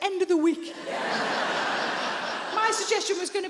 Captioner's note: audience laughing